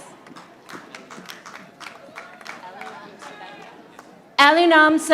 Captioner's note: audience applauding